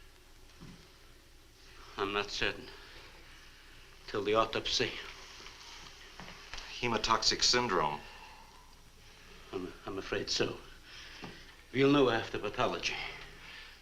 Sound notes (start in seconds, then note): none